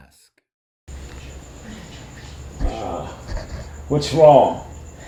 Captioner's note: female officer groans disgustedly